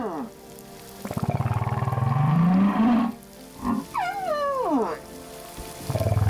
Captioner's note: grunting, squeaking